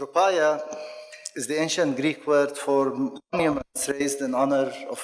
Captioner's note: microphone cuts out